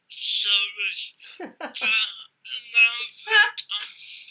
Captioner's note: all laugh